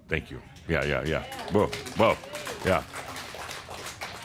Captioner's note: some applause